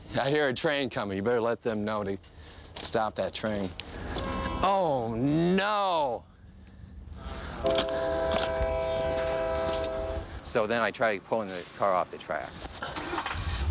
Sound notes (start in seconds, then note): 4.2 train whistle; 7.6 train whistle